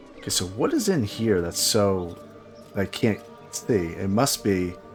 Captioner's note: none